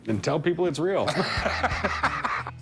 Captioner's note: laughter